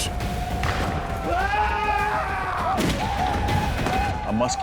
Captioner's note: screaming, gunfire